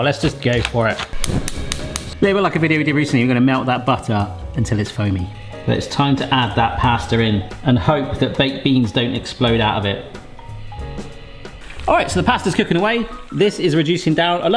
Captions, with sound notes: Let's just go for it. (gas stove sparking) It's a bit like a video we did recently, we're gonna melt that butter until it's foamy. It's time to add that pasta in and hope that baked beans don't explode out of it. All right, so the pasta's cooking away. This is reducing down,